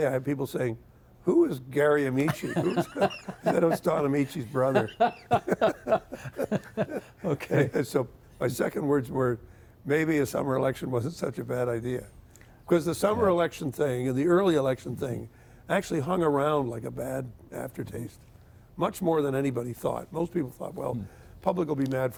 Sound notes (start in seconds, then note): 4.3 both laughing; 5.9 laughing